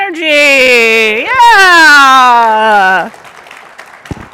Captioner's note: applause